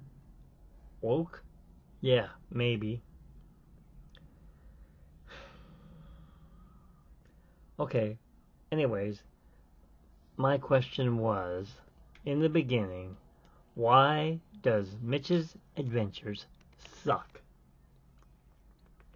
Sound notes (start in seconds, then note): 5.2 sighs